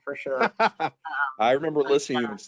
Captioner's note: laughing